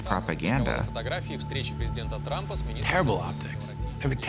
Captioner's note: man speaking Russian